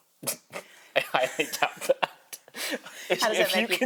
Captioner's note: chuckling